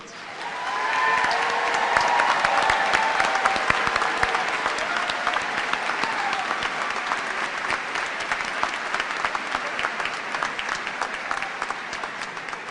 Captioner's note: cheers and applause